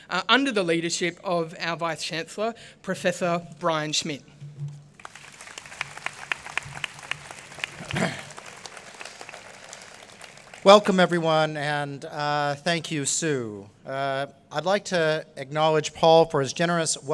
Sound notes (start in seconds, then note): 5.0 applause